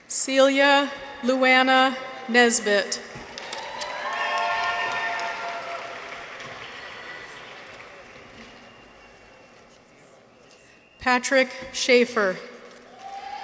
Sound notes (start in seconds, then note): 3.1 people cheer; 3.2 audience applauds; 12.8 people cheer; 13.2 audience applauds